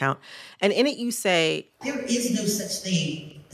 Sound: soundbite of archived recording

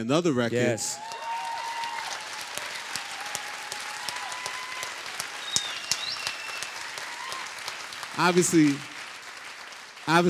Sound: applause

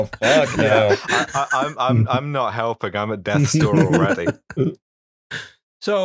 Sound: laughter

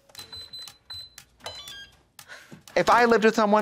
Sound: electronic buttons beep

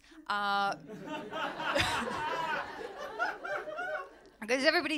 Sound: laughter

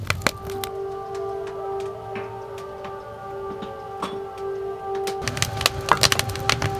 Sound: air raid sirens

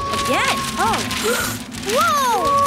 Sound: gasps

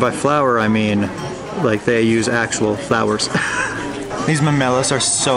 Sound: laughs

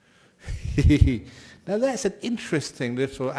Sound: Ajahn laughs

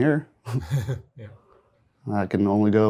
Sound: both chuckle

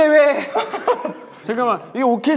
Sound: laughter

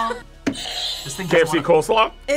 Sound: buzzer rings

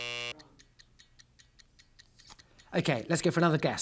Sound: buzzer buzzing; clock ticking

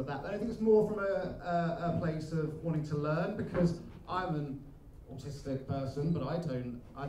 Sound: none

